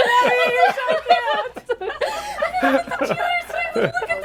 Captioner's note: laughs